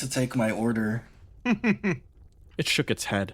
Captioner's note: laugh